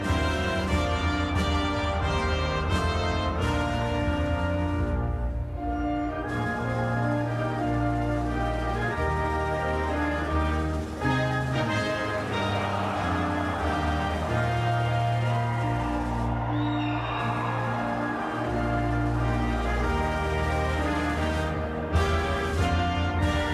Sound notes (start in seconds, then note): 13.2 whistle blows